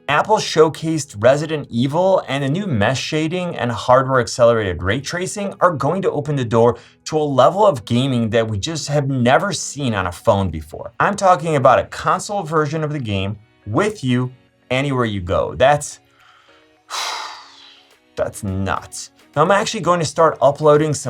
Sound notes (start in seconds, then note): 16.8 exhales deeply